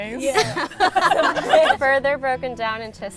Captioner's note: laughs